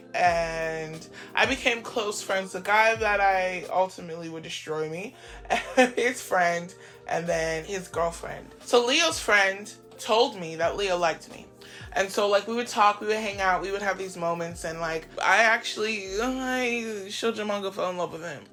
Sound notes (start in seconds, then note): 5.5 nervous laughter